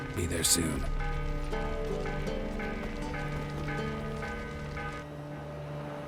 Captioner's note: alarm bells continue